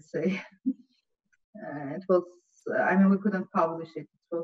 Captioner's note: chuckles